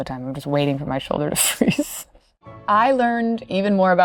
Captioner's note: laughing